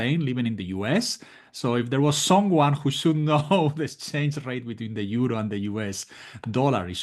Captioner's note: laugh